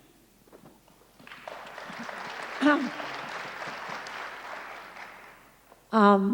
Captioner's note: applause